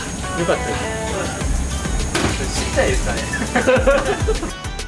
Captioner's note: laughs